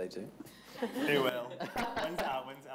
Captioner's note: all laughing